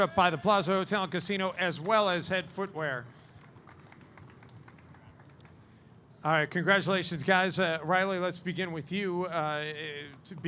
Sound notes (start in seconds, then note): 3.2 audience clapping